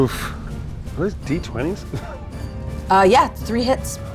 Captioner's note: laughs